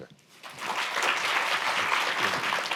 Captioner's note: applause